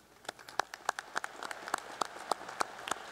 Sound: applause

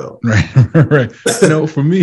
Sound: laughs

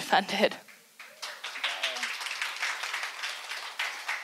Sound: audience applauds

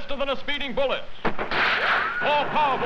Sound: ricochet

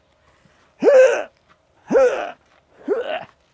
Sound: grunts

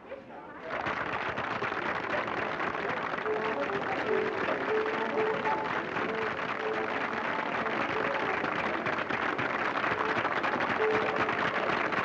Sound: audience applauding

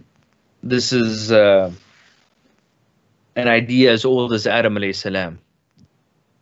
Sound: speaks in foreign language

